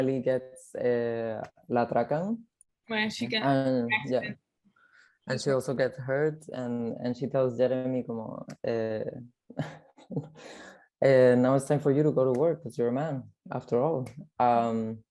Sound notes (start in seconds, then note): 2.0 speaks in foreign language